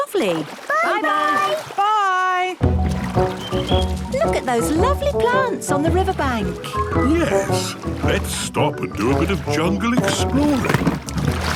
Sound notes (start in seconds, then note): 3.7 chirping